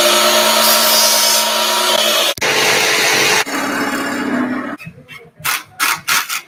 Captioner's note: drilling; sawing